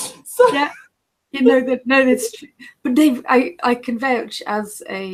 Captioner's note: laughter